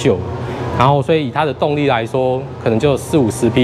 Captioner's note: engine